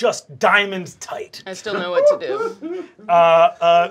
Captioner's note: laughing